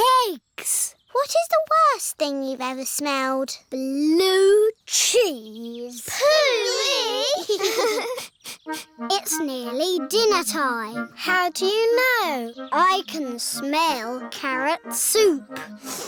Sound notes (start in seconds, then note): 6.1 giggling; 8.1 sniffs